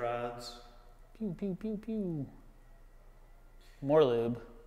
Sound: mimicking engine sounds

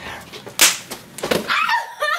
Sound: slap; Mary screams

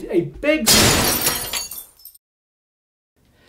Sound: loud crash!!!!!

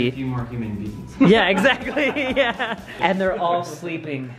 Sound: laughs

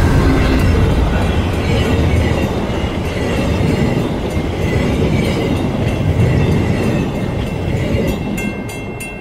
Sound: e-bell and GE chug gradually overpower crossing bell; passenger car trucks whooshing over crossing

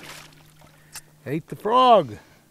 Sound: fish splashing

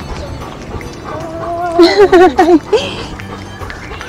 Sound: laughs

